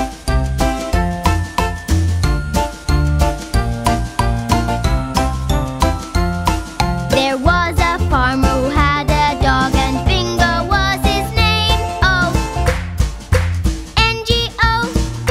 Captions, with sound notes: There was a farmer who had a dog and Bingo was his name-o. [clap][clap] -N-G-O